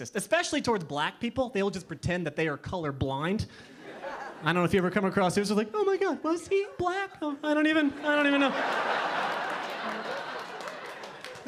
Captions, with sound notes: especially towards black people, they'll just pretend that they are colorblind. (audience laughing) I don't if you ever come across they're just like, "Oh my God was he black?" "Oh, I don't even know." (audience laughing)